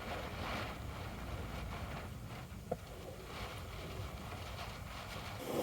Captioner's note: you can hear the sound of a blizzard